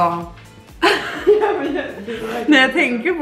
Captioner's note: laughter